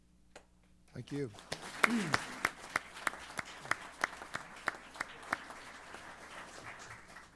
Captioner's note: applause